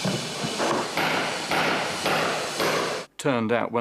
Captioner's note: hammering